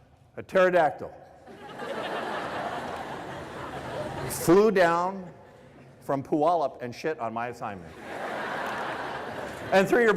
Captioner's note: laughter